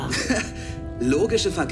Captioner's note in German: lacht